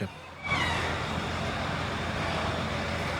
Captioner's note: sounds of the port